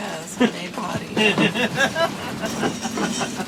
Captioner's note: laughter